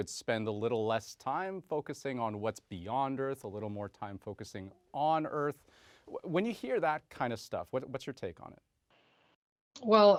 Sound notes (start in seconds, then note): none